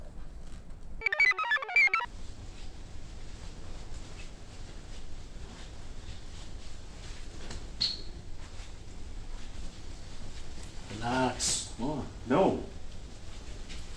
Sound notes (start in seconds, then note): 1.0 computer chirps